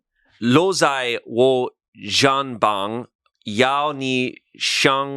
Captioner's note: speaks foreign language